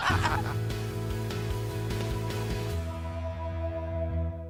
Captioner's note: laughter